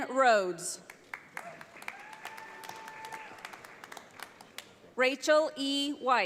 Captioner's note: audience applauds